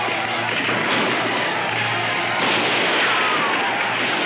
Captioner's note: gunshots firing